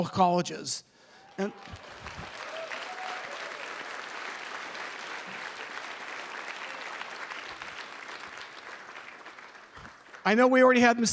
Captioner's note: applause